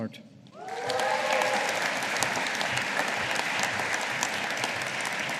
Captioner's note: audience applauding